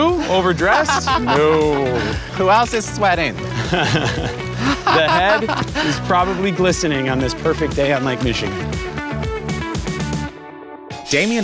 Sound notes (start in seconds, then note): 5.6 both laughing